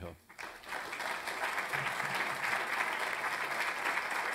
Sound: applause

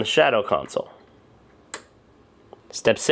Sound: clicking

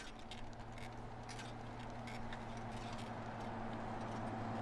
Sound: vehicle approaching

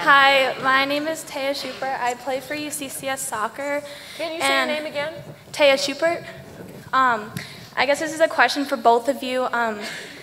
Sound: laughter

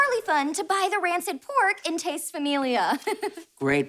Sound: chuckles

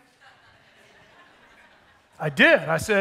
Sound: attendees laughing

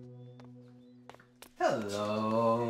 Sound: footsteps approaching

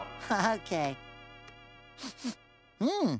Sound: sniffing

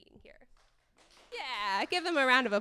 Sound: audience claps

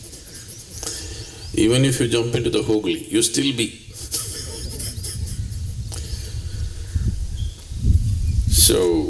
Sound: laughs

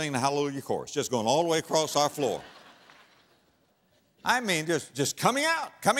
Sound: audience laughter

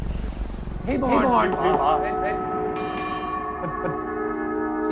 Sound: voice echoing

